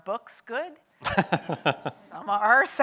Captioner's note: laughs